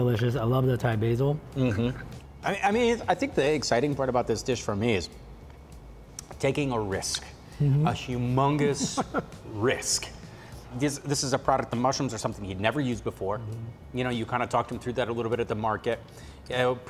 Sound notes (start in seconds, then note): 8.6 laughing